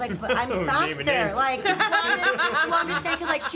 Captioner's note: laughter